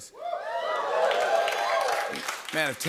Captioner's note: cheers and applause